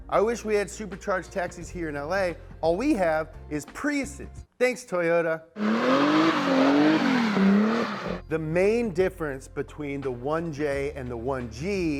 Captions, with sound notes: I wish we had supercharged taxis here in LA. All we have is Priuses. Thanks, Toyota. (car drifts) The main difference between the 1J and the 1G